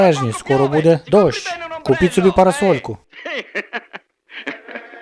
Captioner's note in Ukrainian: сміється